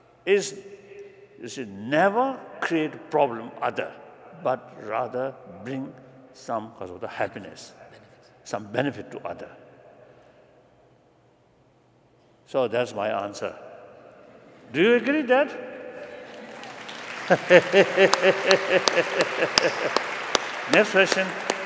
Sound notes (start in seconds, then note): 16.0 applause